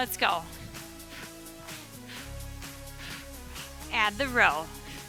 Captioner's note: upbeat music continues; breathing deeply